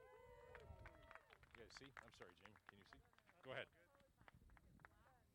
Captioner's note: applause